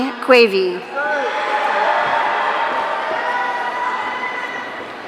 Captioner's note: audience cheering